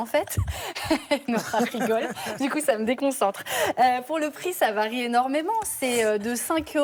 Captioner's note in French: rires